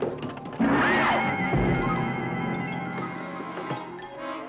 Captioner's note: Helena screaming